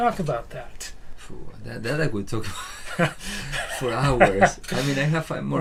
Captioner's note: laughs